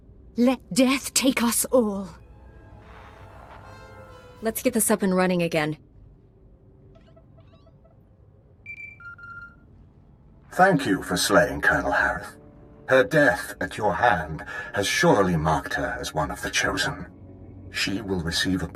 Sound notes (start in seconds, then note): 8.6 Holocom beeping